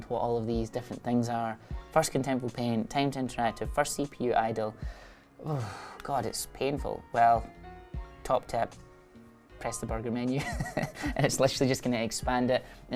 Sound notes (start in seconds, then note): 10.4 laughs